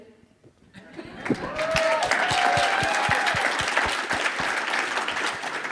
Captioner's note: audience applauding